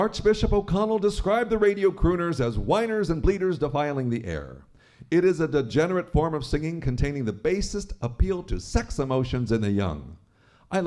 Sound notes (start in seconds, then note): none